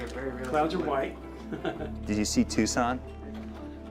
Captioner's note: chuckles